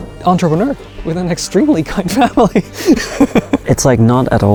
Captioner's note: laughs